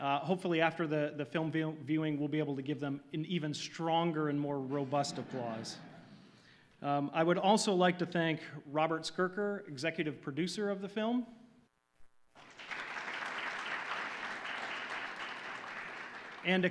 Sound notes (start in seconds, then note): 4.8 audience laughing; 12.3 audience applauding